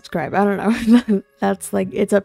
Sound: laughs

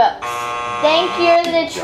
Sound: buzzer buzzing

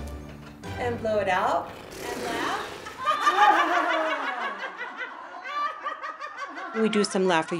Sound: burst of group laughter

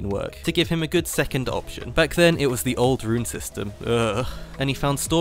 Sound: shudder

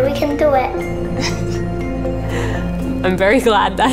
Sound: chuckles

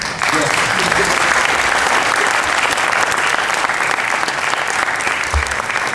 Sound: clapping

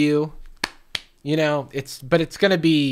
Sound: claps

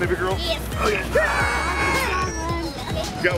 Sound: grunts

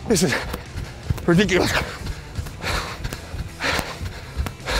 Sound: loud breathing

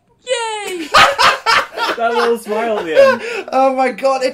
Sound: laughing

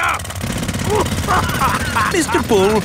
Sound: laughing

